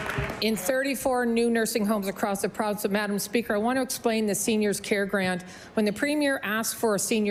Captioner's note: applause